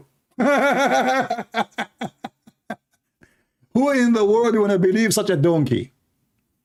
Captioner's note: Ketawa